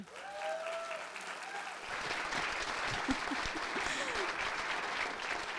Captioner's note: audience applauding